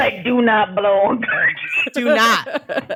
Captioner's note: laughs; all laugh